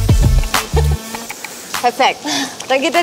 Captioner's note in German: lacht